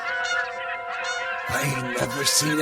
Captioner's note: birds chirping